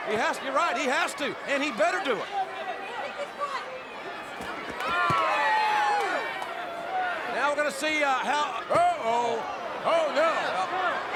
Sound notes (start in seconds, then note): 4.4 crowd cheering